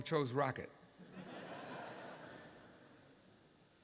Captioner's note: laughter